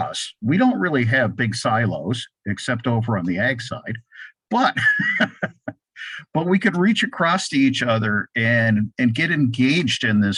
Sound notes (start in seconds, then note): 4.5 laughs